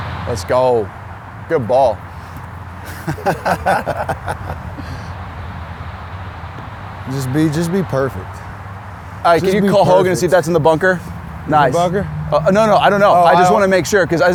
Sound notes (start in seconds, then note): 2.8 laughs